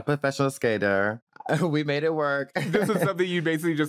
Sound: laughs

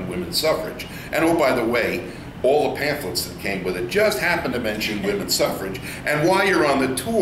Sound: all laugh

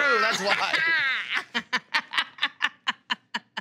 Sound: laughing

